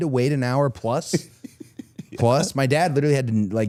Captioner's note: Chad laughs